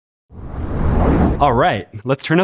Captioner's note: whoosh